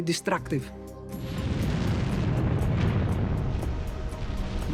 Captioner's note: blasting sound